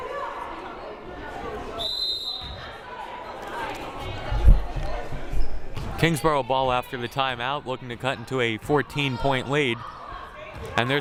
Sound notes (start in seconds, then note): 1.8 whistle blaring